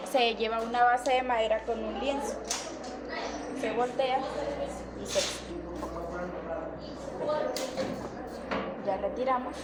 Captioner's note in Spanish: resoplido